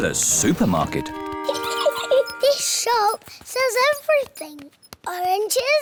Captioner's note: giggles